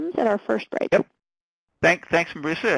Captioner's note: voiceover